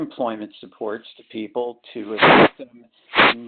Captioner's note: sliding static